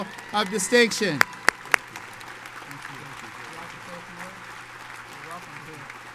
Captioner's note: audience cheers and applauds